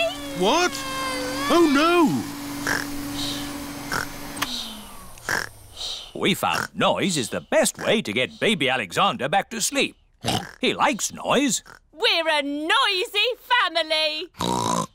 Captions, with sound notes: What? Oh, no. (SNORES) (WHIRRING STOPS) We found noise is the best way to get Baby Alexander back to sleep. -(OINKS) He likes noise. -We're a noisy family! (OINKS)